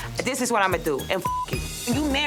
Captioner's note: beep